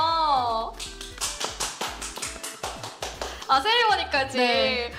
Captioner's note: applause